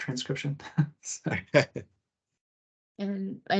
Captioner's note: laughs